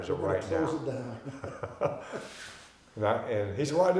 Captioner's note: both laughing